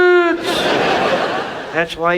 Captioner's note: audience laughs